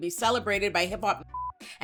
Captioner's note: beep